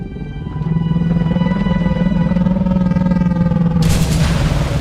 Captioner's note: an alien, incomprehensible sound reverberates; exciting music fills the space